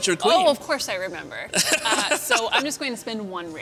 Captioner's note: laughter